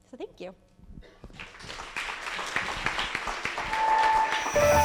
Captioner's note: applause